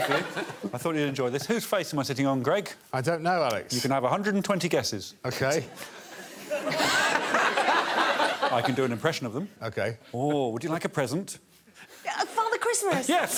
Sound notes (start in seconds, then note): 5.6 laughter